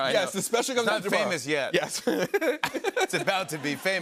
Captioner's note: laughs